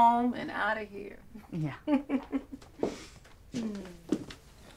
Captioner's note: Betty chuckles